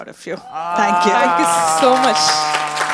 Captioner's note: audience Applause